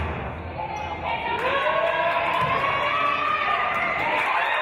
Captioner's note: referee's whistle; players and audience yelling; cheering and applause